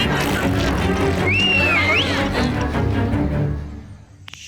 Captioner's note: Moses whistles